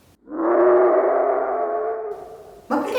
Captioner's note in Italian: urlo del drago